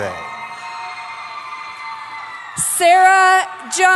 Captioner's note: cheering